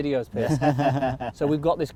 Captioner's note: group laughs